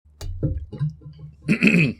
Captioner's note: metal water bottle rattles as its set down; clears throat